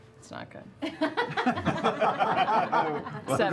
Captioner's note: laughter